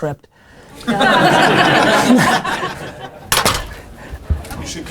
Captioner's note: laughter